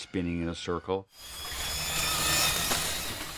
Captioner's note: whirring